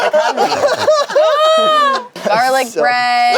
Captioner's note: group laughs